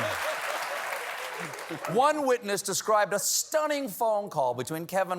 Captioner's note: applause